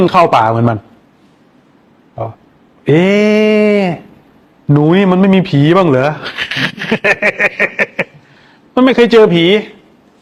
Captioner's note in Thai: เสียงหัวเราะ